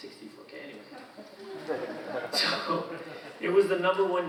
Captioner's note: audience laughing